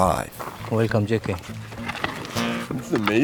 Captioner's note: foreign language